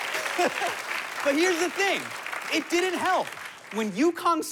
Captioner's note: laughs